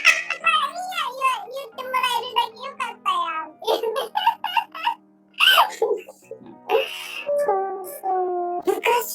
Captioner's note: laughs; laughs